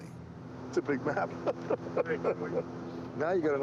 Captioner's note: chuckling